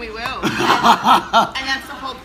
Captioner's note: laughing